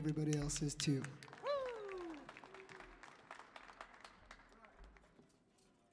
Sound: audience applauds

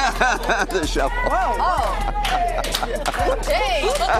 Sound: laughing

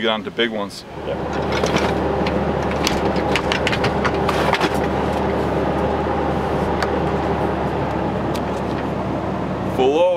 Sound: road noise

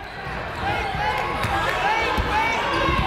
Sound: chatter

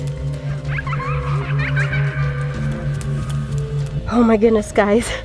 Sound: child laughing eerily

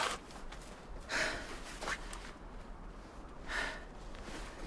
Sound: taking deep breaths

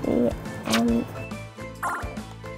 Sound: bubbling sound

